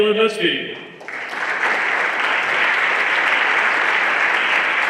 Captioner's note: everyone applauding